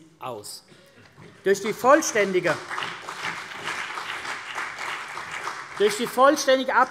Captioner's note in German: Beifall CDU und BÜNDNIS 90/DIE GRÜNEN